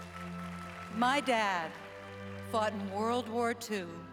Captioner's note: applause